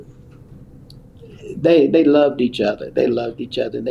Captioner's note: laughs